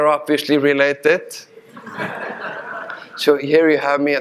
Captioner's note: audience laughing